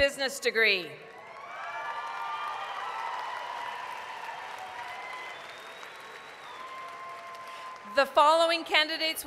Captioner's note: applause, cheering